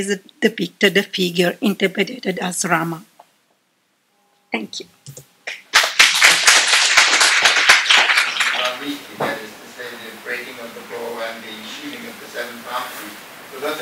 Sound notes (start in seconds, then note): 5.4 applause